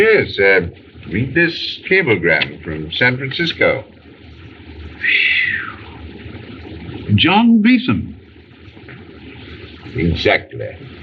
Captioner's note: sighs